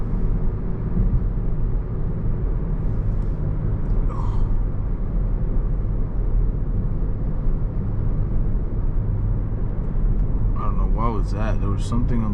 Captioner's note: car engine roaring